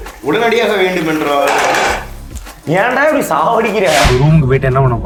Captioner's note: utensil falls